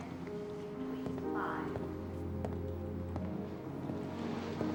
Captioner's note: footsteps